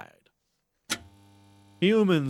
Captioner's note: light Switch